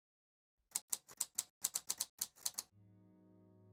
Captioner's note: typewriter clicks